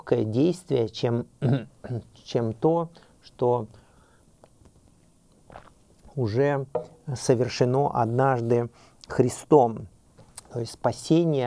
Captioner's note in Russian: прочищает горло